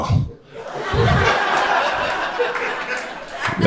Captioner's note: crowd laughter